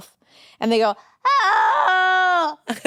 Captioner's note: imitating a cat